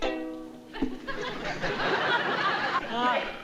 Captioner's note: audience laughing